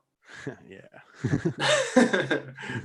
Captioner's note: laughs